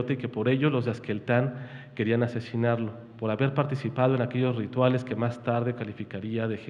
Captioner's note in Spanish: habla en wixárika